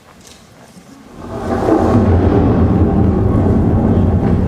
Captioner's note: thunder booming